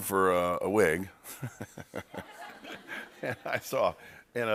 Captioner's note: laughter